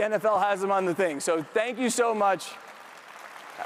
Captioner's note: speaks faintly